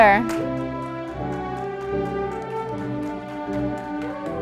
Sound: audience applauding

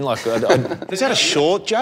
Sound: laughs

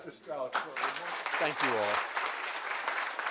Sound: applause

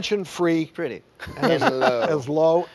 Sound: laughing

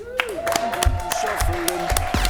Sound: applause

